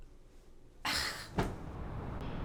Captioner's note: scoff